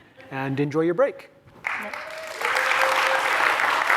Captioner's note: applause